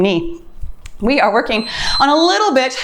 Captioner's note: timer beeps